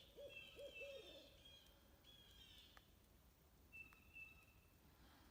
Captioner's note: owl hooting; blue jays calling